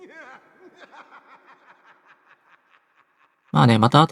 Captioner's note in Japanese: 笑い